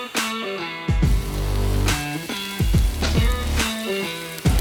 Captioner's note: roast sizzling